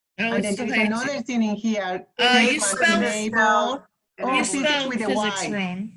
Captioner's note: indistinct chatter